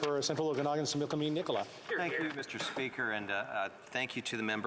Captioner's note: speaking French